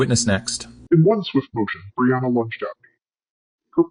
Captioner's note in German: verzerrt